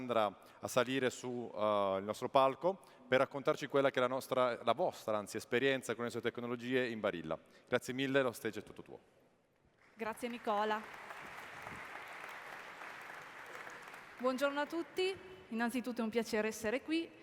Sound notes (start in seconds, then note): 9.8 applause; 14.4 speaking italian